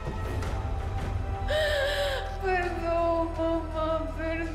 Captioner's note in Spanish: Sollozos